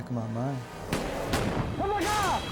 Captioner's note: gun firing